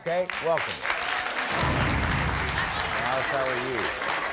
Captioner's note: clapping